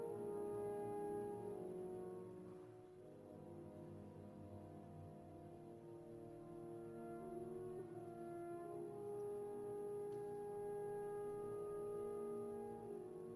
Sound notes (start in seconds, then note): none